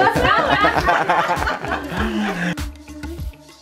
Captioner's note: laughing